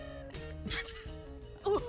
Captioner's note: laughs